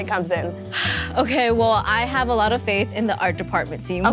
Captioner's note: gasps